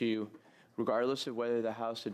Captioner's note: speaking French